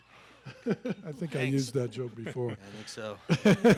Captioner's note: laughs; laughing